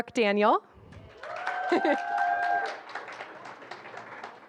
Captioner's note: applause